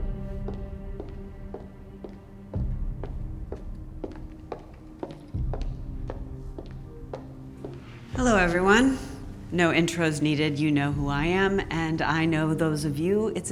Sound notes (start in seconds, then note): 2.4 footsteps clicking